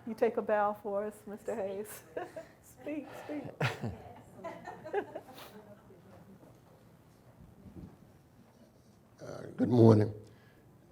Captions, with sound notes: - You take a bow for us, Mr. Hayes? (chuckles) Speak. Speak. (audience member chuckles) - Good morning.